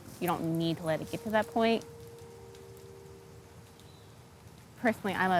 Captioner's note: fire crackling